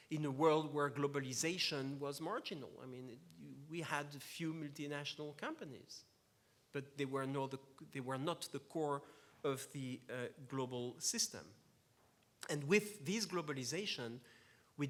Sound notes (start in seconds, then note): none